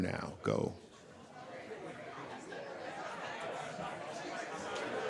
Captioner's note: people chattering